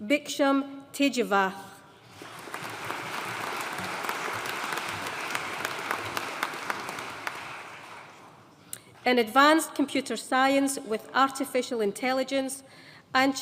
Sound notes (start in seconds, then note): 2.0 audience applauding